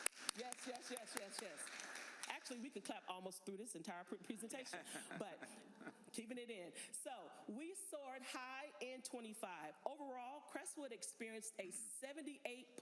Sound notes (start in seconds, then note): 2.5 applause